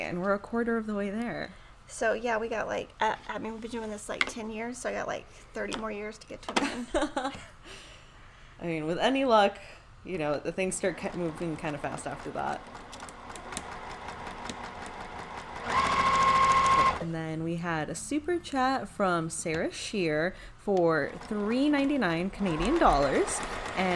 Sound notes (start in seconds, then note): 6.6 chuckles; 13.4 sewing machine whirrs